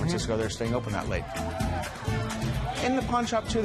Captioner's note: cheers and applause